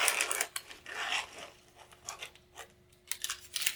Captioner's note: packages opening